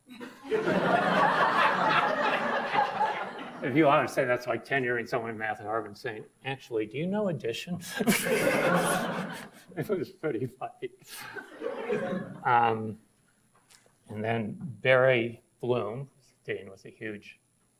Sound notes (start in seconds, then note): 0.0 audience laughs; 7.8 laughs; 7.9 audience laughs; 11.2 audience laughs